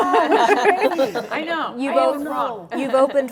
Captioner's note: laughter